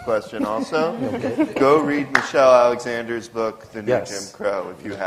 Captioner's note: laughter